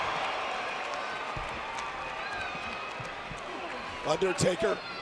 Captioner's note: applause